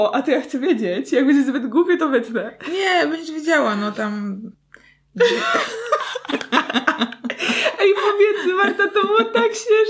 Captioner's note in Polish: śmiech